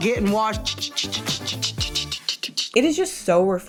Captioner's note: makes sprayer noises